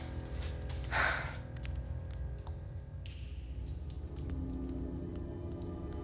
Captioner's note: Candace re-enactor gasping